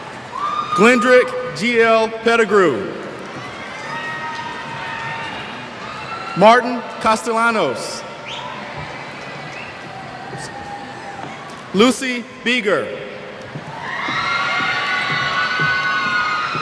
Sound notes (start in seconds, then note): 2.5 cheers; 13.6 cheers